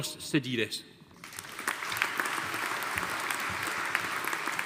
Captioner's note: audience applauding